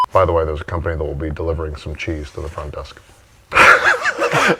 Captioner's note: laughs